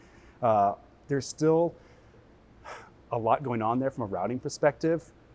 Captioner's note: sighs